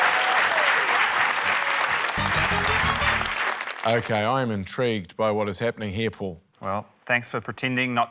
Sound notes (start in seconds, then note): 0.0 cheering, applause